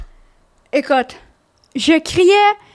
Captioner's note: in french